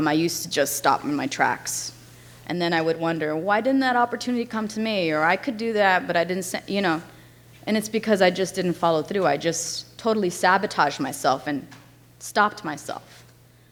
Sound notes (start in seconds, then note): none